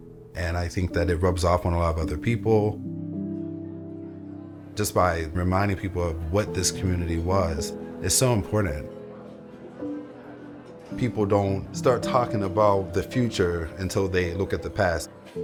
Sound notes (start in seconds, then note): 9.3 people talking